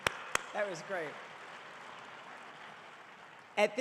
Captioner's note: audience applauding